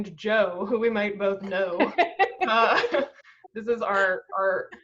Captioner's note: laughs